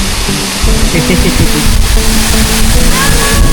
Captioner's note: laugh